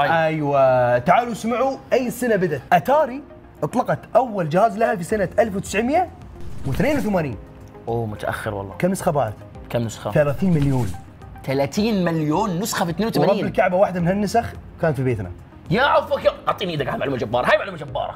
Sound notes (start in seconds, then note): none